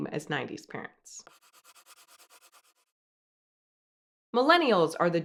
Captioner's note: pencil scratching